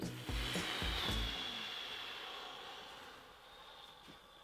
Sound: exhaling

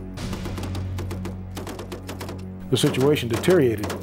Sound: guns firing

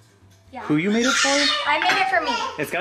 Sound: baby noises

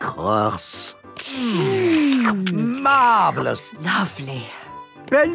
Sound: slurping

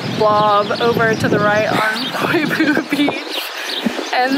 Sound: laughs

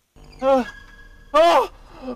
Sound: more moan

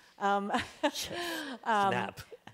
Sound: chuckles

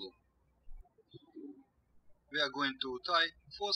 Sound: birds chirping

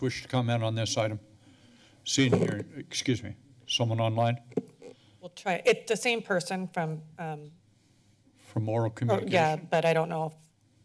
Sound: foreign language

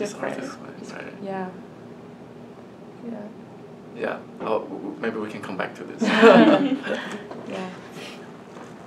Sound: all laugh

